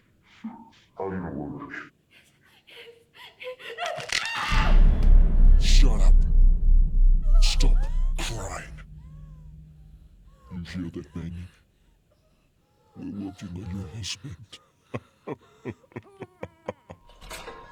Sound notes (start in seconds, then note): 3.9 Catherine screaming; 4.0 finger crunching; 14.9 killer laughing; 17.4 Catherine sobbing